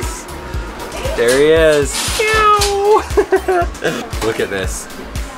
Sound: meows

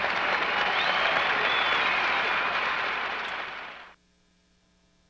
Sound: applause

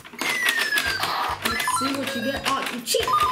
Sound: gumball noises

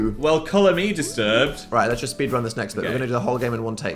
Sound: none

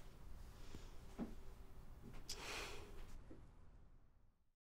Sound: sigh

